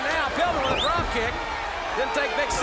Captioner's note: crowd chatter